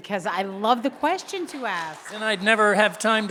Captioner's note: audience applauding